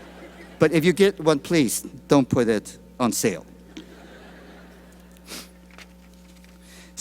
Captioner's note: laughter